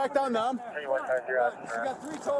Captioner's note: radio chatter